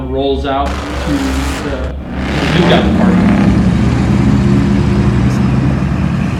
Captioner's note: engines revving